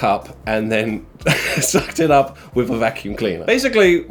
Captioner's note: chuckling